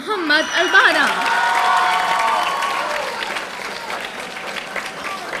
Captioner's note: audience applauding